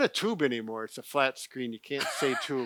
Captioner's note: laughs